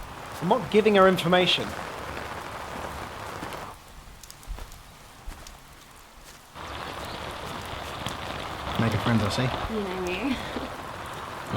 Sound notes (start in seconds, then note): 1.9 rain hitting umbrella